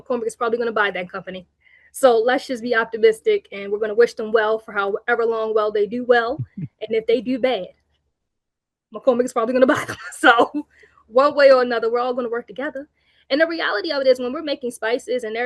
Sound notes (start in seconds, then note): 9.9 chuckles